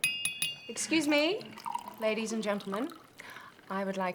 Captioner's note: glass dinging